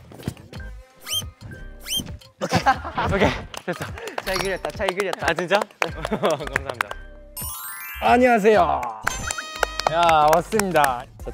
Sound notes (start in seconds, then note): 3.9 breathing heavily